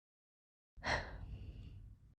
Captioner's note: sigh